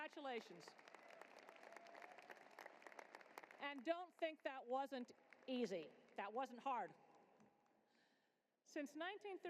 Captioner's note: applause